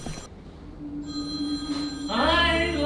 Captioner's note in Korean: 전화 벨소리